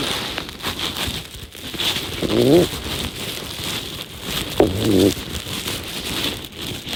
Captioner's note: sound of strap tightening